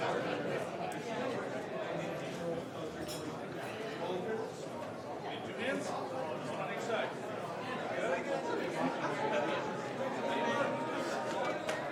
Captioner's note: mixed conversation in the room